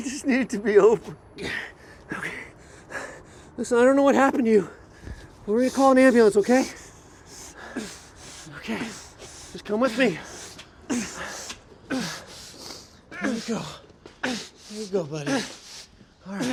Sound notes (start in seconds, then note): 2.2 panting; 7.9 Mark grunting